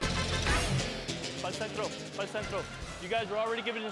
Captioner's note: referee speaking in Spanish